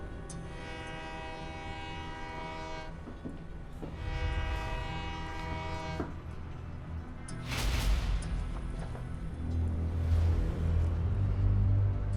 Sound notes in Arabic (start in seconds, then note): 0.3 بوق القطار; 2.9 خطوات، بوق القطار